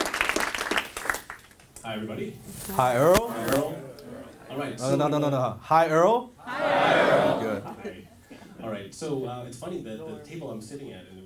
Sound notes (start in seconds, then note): 6.4 audience says hi Earl loud